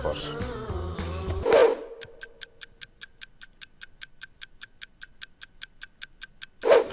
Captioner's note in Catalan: tic-tac